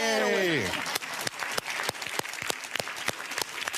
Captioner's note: applause